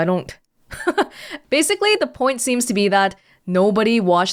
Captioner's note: chuckles